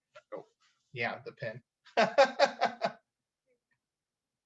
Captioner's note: laughs